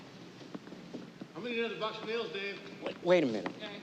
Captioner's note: workers talking in background